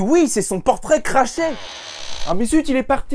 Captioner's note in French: Grincement